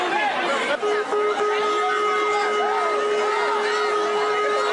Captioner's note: siren hoots